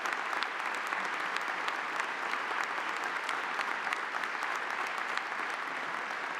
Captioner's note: audience continues applauding